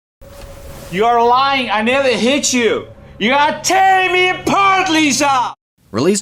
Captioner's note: in an unintentionaly drunken voice